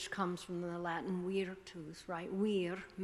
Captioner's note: speaking foreign language